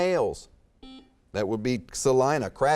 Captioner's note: beeping